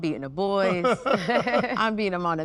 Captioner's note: laugh